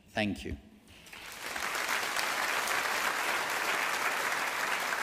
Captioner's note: audience applauding